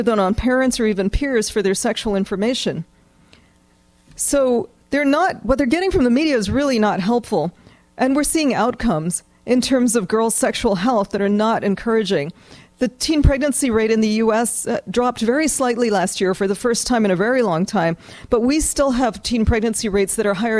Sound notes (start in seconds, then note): none